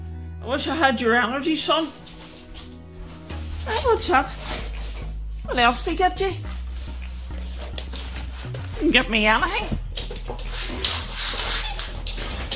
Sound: Max barks

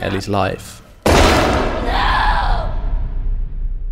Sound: gunshot

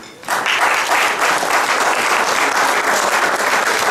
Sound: audience clapping

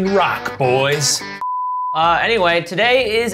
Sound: extended beeping

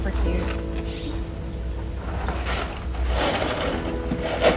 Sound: background music; noise of ice cubes shifting

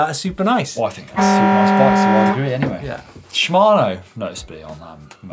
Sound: horn blaring

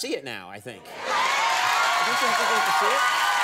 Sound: audience cheers

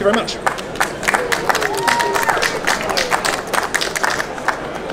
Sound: audience applauds

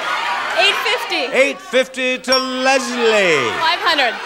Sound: bell chimes

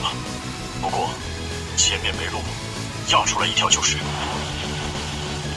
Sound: engine roars

